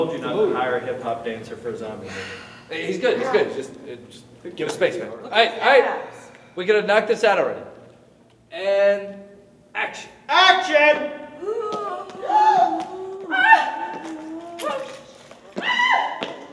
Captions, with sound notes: - I told you not to hire a hip hop dancer for a zombie movie. - He's good, he's good, it's just, give him space. All right, all right, we're gonna knock this out already. And action. - Action. (moaning) (screaming)